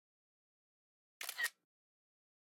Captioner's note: camera Click